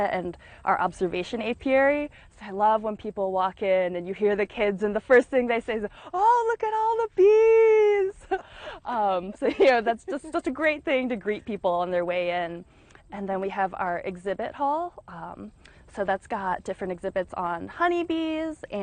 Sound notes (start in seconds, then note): 9.2 laughing